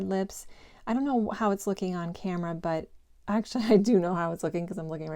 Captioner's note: giggle